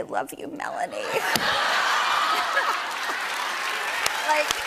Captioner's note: laughter